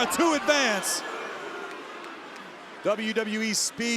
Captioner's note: crowd groaning